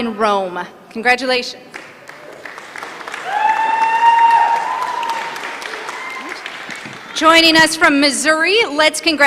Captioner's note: applause